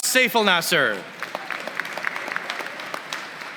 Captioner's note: applause